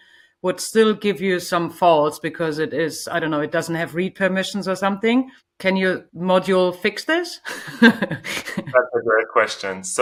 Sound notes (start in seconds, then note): 7.5 laughs